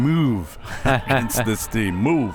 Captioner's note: whistle; both laughs